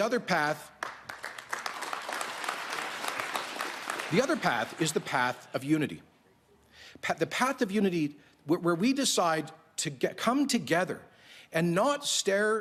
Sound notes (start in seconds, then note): 7.8 applause